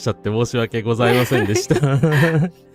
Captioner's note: laughter